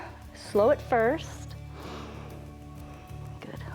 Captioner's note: inhales and exhales